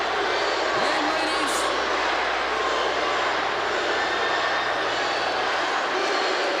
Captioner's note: crowd cheering